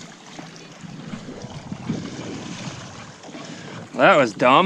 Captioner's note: water sploshing